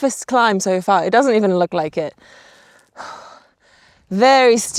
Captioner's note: exhales